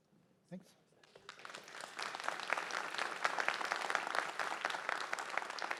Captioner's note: applause